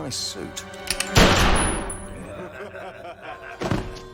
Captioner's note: gunshot; laughter